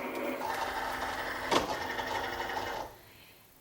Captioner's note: Cricut whirring